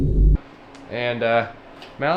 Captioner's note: engine revving